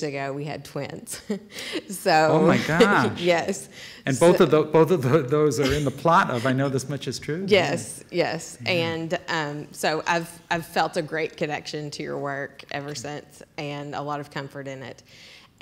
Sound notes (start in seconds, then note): 2.2 laughing